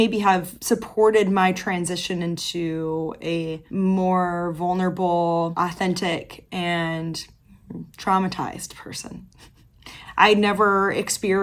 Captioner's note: quiet laugh